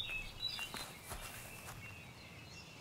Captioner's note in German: Laufgeräusche